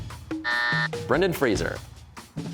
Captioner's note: buzzer